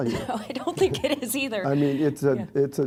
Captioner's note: laughs